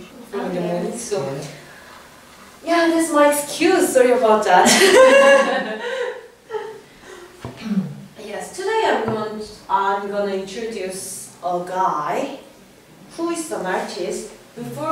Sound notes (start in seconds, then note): 4.6 laugh